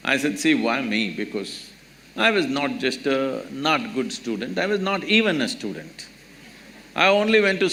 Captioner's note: few laugh